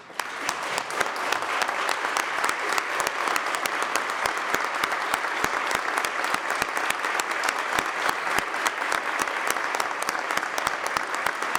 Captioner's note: applause